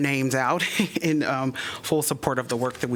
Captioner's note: laughter